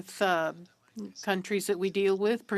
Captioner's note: speaking in French